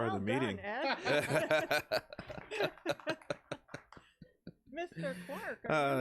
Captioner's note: everyone laughs; audience claps lightly